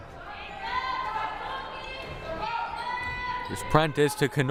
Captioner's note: crowd murmuring